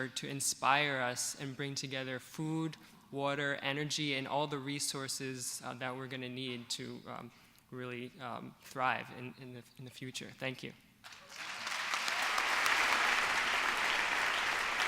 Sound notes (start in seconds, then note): 11.0 applause